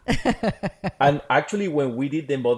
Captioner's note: laughs